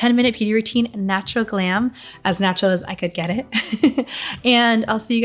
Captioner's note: laughing